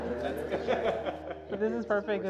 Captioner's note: laughter